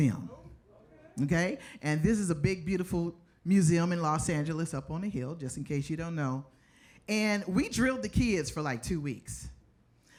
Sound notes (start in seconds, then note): none